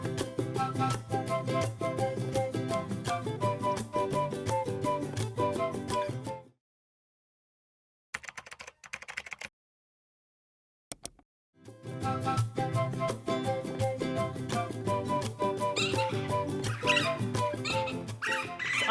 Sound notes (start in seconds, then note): 0.0 playful music; 8.1 keyboard typing; 10.1 mouse click; 11.8 playful music continues; 16.6 birds chirping